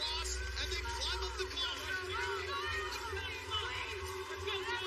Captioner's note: audience shouting